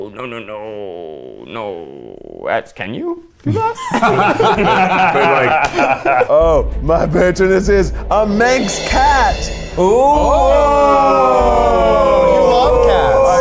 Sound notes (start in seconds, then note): 3.4 laughs